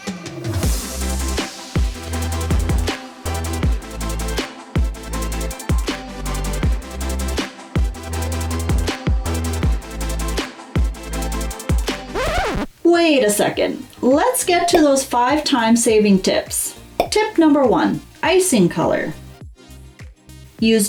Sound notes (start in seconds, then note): 12.1 record scratch